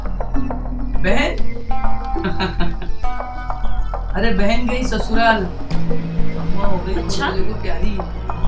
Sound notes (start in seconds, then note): 2.1 laughs